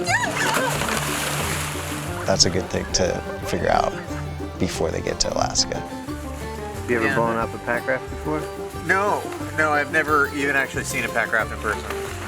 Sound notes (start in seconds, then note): 1.0 splashing